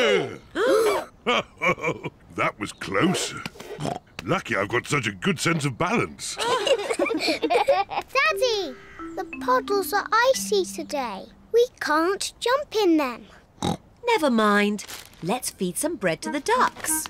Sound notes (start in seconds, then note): 0.3 all gasp; 1.3 chuckles; 3.2 snorts; 6.3 all giggle; 13.2 snorts